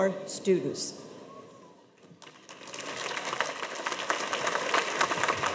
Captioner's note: audience applauds